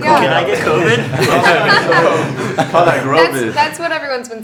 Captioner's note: all laughing